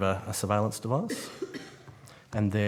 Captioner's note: member coughs